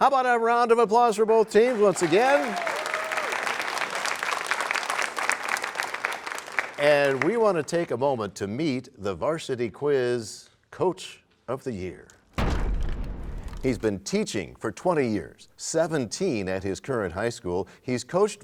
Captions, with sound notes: -So how about a round of applause for both teams once again. [applause] -And we want to take a moment to meet the Varsity Quiz Coach of the Year. [crashing sound] -He's been teaching for 20 years, 17 at his current high school.